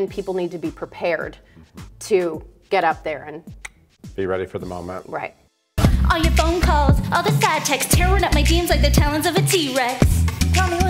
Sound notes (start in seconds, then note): 3.6 tongue clicks